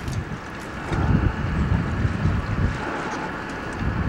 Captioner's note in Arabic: هبوب رياح